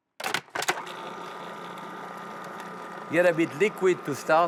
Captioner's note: whirring